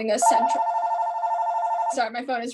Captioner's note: phone rings